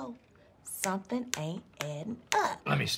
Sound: snapping fingers

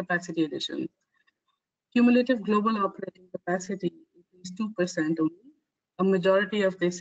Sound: audio static

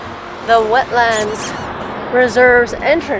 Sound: squeaks

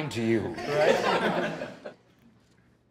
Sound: laughter

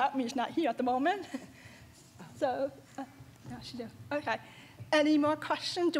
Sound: chuckles

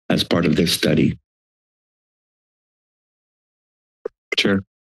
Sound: silence

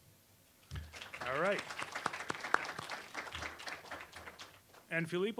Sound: applause

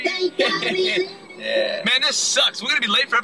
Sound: chuckling

